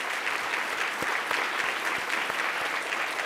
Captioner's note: applause